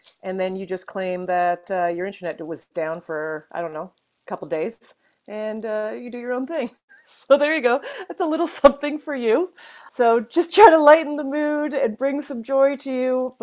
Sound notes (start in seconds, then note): 6.6 laughs